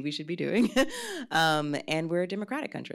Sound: laughs

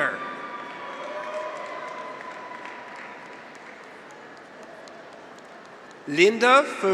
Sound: graduates cheer; audience applauds

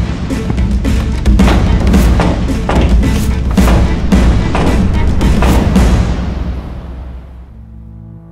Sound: door rattles

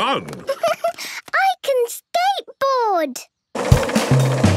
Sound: giggles

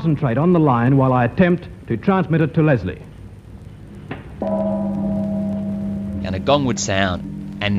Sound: gong sound

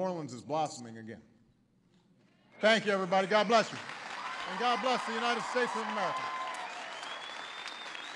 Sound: applause

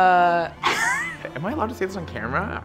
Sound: laughing

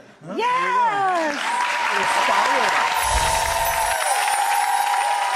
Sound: applause and cheering

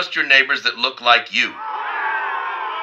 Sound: boos

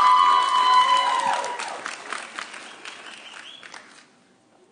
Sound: audience cheering

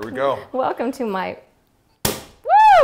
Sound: cork pop

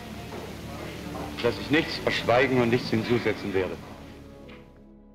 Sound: in German

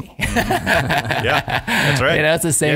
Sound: laughing

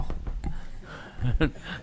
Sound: laughter

